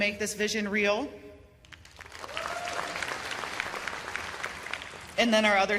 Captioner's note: cheers and applause